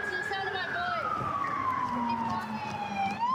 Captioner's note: sirens